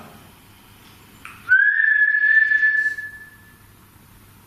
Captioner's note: whistling